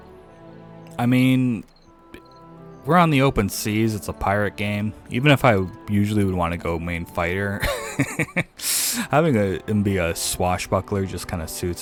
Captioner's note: laughs